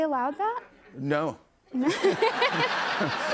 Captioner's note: laughter